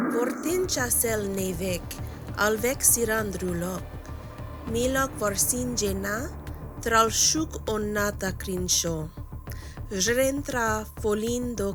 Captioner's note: speaking new language